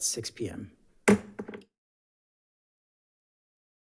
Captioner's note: gavel taps